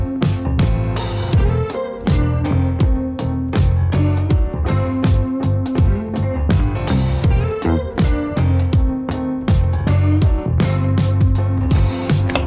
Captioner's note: chopping sounds